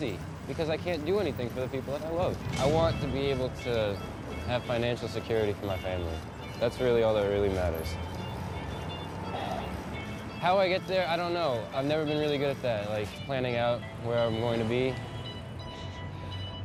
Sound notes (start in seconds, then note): 10.0 sighs